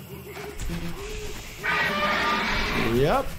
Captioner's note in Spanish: se escuchan sonidos en el juego